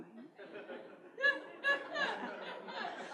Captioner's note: laughter